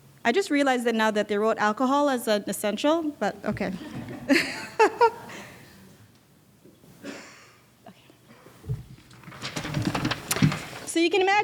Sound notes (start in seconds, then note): 3.8 laughing